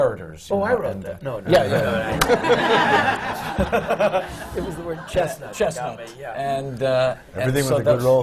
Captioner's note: laughter